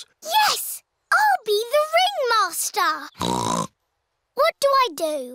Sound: snorts

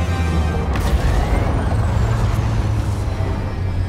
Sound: loud booming

